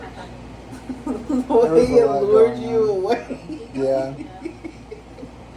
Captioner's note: laughing; laugh